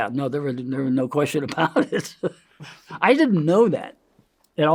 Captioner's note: laughs